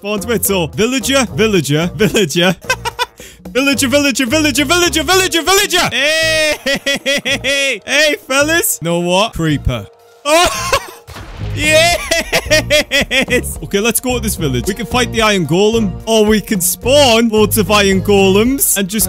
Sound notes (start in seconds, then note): 2.6 laughter; 11.0 explosion